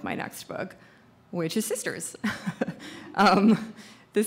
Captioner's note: laughs